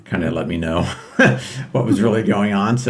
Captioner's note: laughing